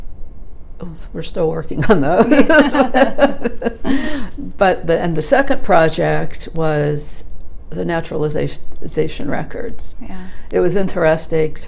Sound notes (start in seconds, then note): 2.2 laughs